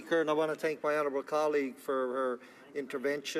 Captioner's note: speaking French